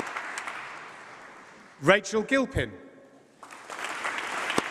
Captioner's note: applause